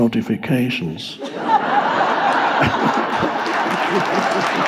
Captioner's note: audience laughs